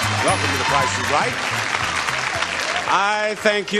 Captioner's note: audience applauding